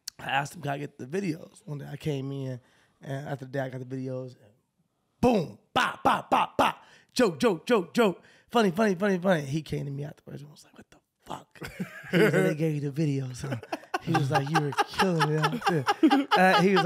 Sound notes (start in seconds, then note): 10.8 whispers; 13.2 chuckles